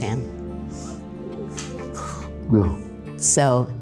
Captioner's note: low murmurs from crew